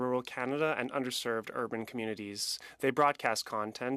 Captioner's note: speaking French